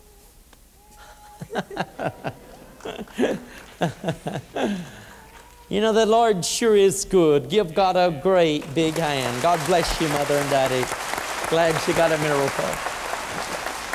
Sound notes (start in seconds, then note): 0.1 snapping fingers; 1.3 laughter; 8.5 applause